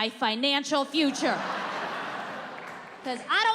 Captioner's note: audience laughing